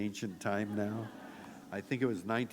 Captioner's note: laughter